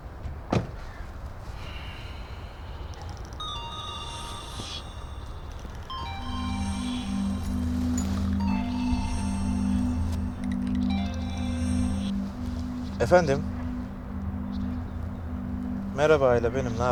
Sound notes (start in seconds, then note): 3.5 phone ringtone